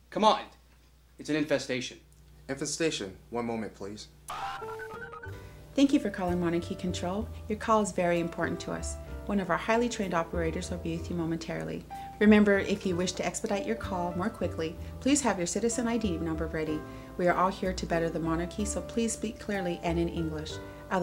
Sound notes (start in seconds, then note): 4.3 beeps